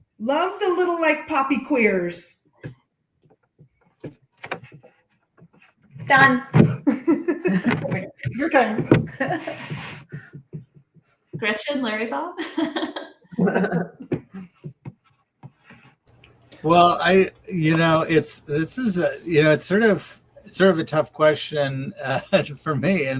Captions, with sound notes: love the little puppy queers. Done. [laughter] Gretchen, Larry-bob? [laughs] Well, it's a tough question for me